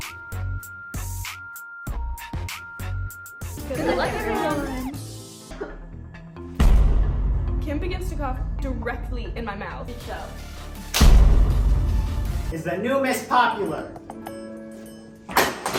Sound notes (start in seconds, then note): 5.4 coughs; 10.9 slaps; 13.3 emotional music